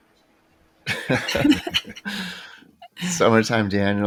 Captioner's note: all laughing